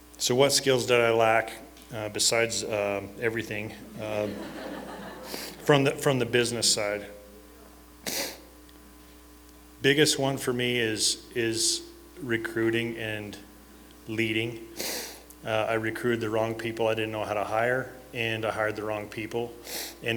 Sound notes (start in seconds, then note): 3.9 laughter